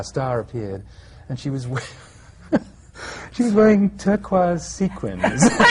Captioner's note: he laughs; laughter